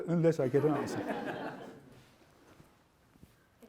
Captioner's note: laughter